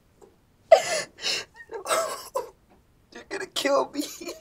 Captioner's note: crying